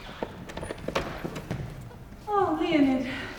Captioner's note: door opens